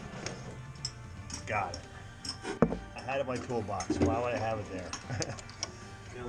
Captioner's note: chuckle